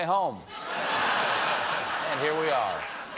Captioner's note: laughter